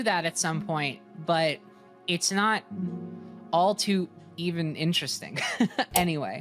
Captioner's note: chuckles